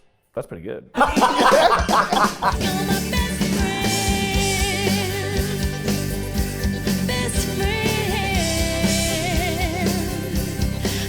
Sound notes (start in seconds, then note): 0.9 group laughing